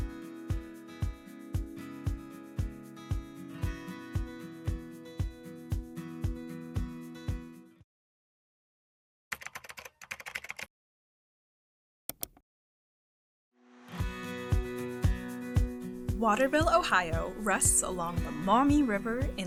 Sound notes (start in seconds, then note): 0.0 lighthearted music; 9.3 keyboard clacking; 12.1 mouse clicking; 14.0 lighthearted music